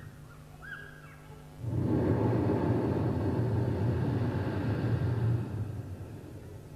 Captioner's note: shri mataji blows into the microphone